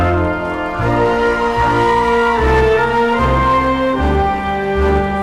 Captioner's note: audience cheering